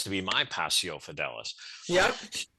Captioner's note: speaks in foreign language